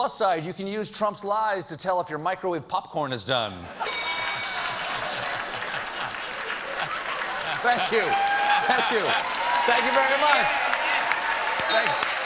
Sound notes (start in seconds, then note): 6.1 ding